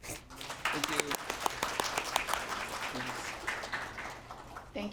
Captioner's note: applause